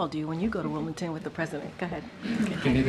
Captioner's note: laughter